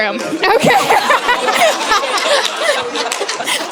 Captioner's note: laughter